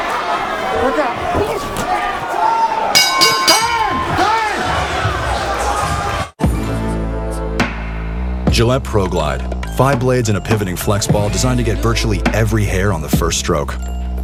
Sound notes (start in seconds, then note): 2.9 bell rings